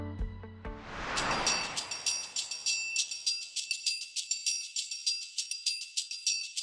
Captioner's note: anticipatory music; screen whooshes